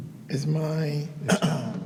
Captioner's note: clears throat